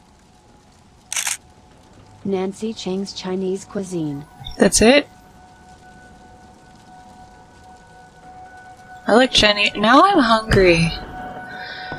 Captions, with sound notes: *camera click* That's it? I like Chinese- now I'm hungry.